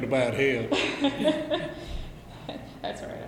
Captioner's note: both laugh